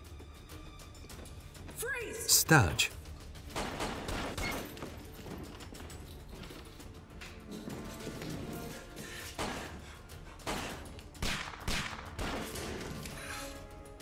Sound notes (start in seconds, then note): 3.4 guns firing